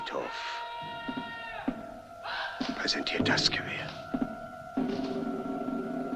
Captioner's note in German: Mann ruft Befehle